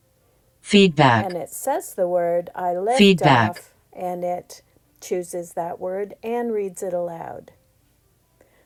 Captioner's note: iPad speaks